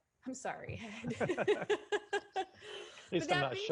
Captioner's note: laughter